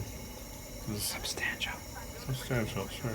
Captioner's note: whispers